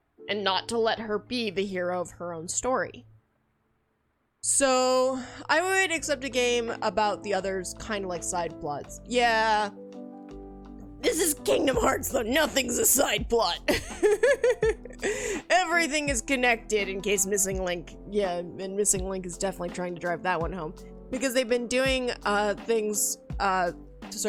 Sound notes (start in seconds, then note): 13.7 laughter